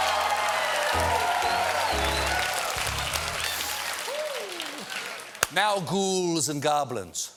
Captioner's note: cheers and applause